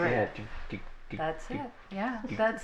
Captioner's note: imitating heartbeat